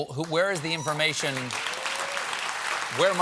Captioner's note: applause